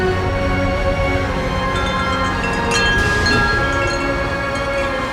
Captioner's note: chimes ringing